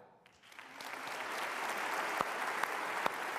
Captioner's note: applause